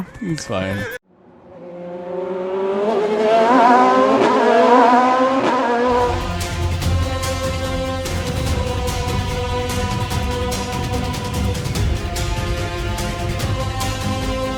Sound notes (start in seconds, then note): 2.0 car Engine Noise